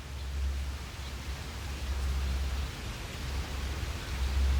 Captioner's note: birds chirping